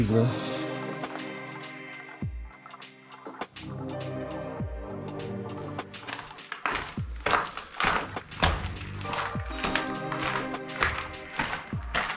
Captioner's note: steps